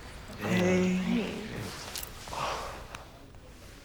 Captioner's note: exhales sharply